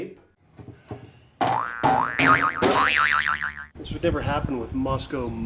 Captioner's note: cartoonish springing